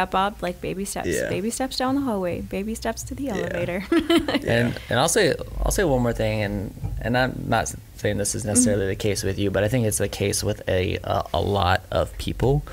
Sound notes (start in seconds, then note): 3.3 laughing